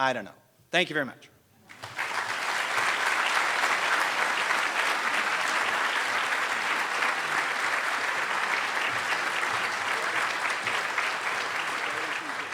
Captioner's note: applause